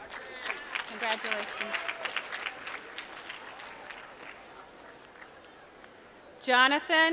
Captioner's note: applause